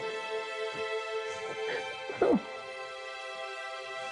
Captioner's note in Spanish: Sollozos